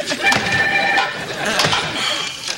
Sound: telephone rings

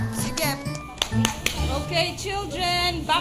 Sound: clapping

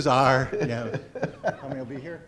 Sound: everyone laughs

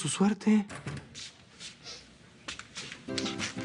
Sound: Sonido al abrir la puerta

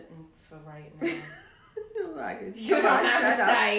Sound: laughing

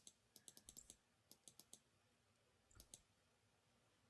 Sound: mouse clicks

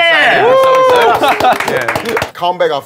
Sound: sound of clapping

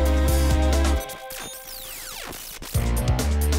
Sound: digital distortion; funky dance music

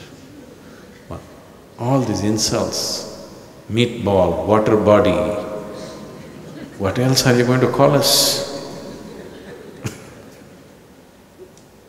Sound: few laugh

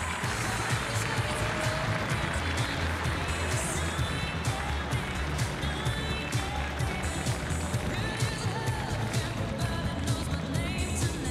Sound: cheers and applause

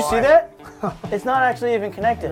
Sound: chuckling

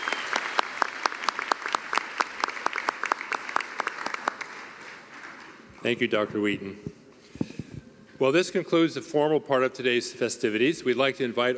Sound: cheering and applause

